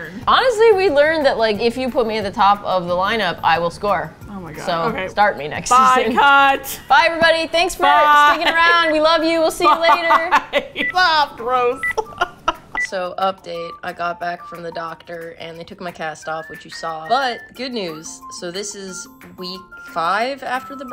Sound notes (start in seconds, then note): 11.6 laughs